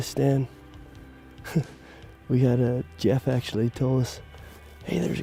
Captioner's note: chuckles